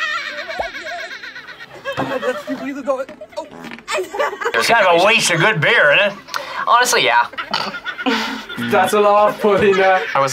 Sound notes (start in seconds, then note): 0.0 people laughing; 3.4 man farts; 7.6 snorts; 9.8 buzzer rings